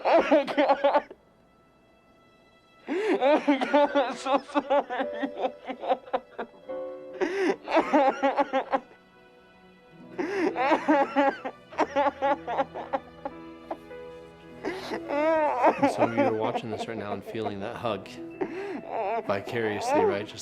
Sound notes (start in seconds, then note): 1.7 somber music; 7.2 crying continues